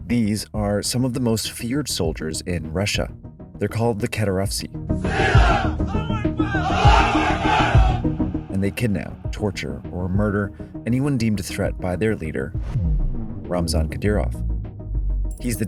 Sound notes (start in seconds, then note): 5.1 people speaking in foreign language